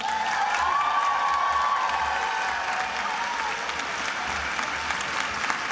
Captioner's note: attendees applauding and cheering